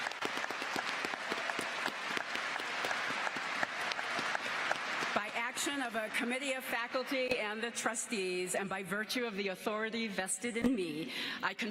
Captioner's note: applause